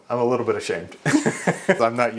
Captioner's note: laughs